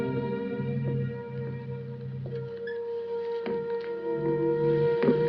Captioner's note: footsteps